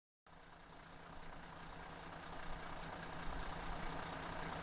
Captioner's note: engine idling